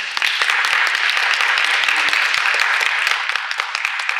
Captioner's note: applause